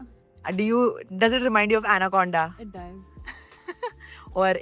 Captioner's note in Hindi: हंसी